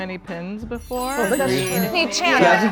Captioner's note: sparkling sound effect